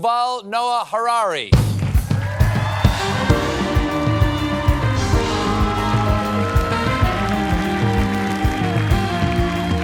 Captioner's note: cheers and applause